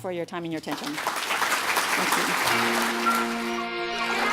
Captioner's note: applause; music and animal sounds